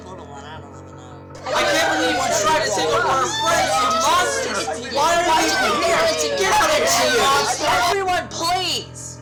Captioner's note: overlapping arguing